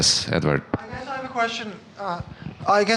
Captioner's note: voiceover